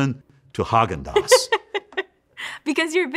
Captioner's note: laughs